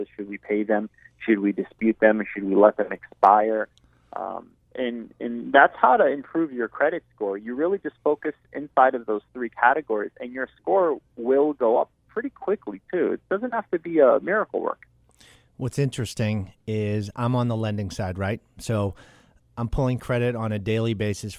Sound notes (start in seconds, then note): 15.7 voiceover